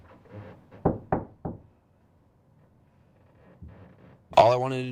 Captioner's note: door knocking